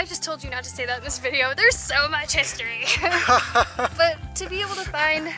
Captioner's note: laughter